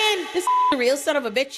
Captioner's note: beep